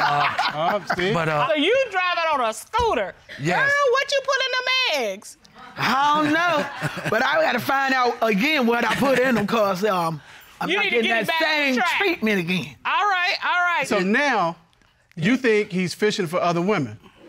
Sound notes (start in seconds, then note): 5.6 laughs